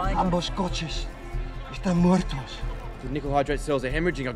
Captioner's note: speaking foreign language